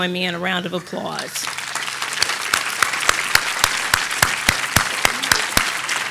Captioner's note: audience applauding